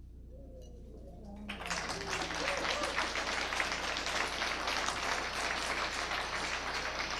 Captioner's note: audience applause